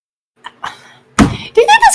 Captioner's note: table smack